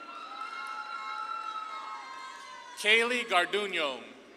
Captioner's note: audience claps and cheers